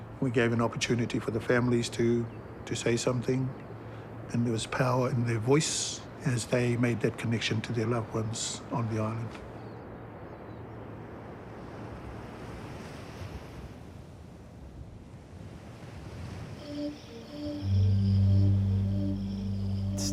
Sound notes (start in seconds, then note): 10.6 waves softly crash; 17.4 ominous organ music